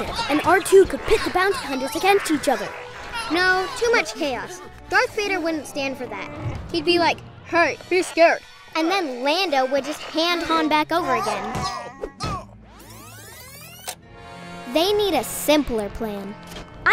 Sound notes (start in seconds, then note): 11.5 yelling; 12.6 rewind sound effect